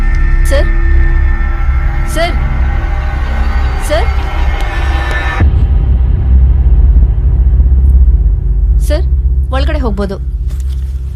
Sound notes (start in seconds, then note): none